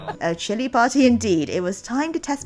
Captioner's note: laughs